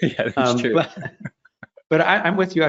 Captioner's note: laughter